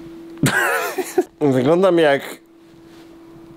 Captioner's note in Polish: śmiech